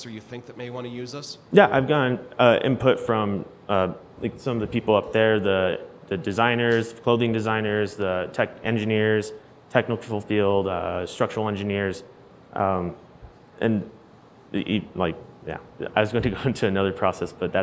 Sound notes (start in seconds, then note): none